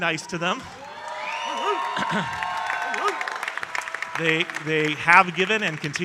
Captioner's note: audience cheering and applauding